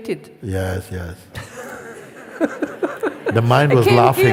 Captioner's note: risas